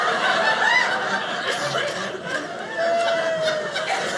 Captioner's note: audience laughing